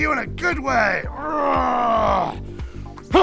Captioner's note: rwarrrrrrrr!